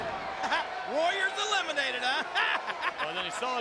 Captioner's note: laughing